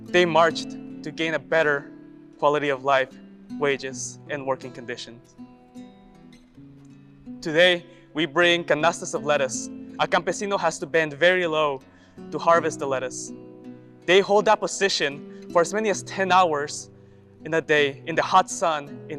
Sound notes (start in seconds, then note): 5.7 gentle guitar music; 8.4 speaks Spanish